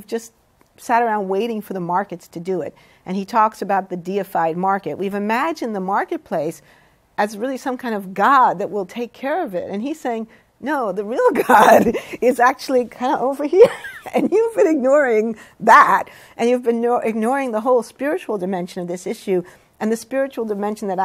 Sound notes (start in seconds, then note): 11.4 laughs